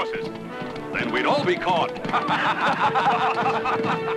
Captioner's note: laughing